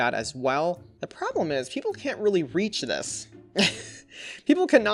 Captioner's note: chuckles